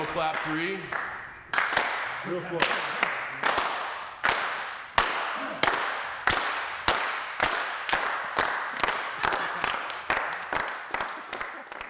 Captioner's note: applause